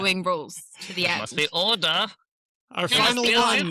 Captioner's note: laughs; in a german accent